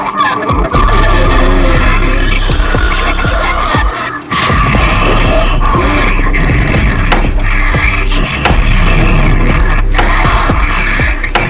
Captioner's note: guttural sounds